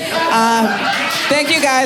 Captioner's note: audience laughing